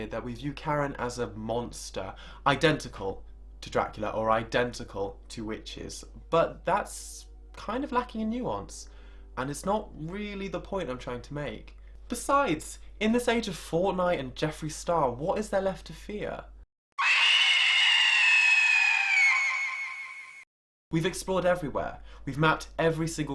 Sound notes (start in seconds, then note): 16.9 screaming